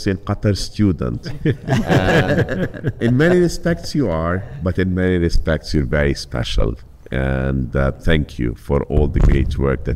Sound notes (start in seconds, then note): 1.2 panelist chuckles